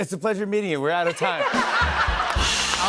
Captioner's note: laughter